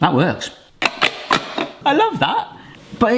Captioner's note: bottle opener clicks